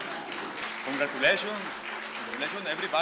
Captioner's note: clapping